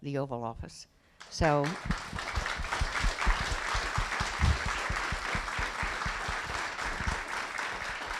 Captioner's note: applause